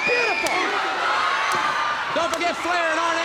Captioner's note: blows thudding